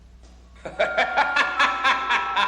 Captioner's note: laughing